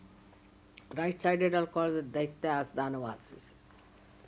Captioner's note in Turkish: hintçe